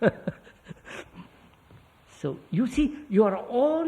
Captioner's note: laughs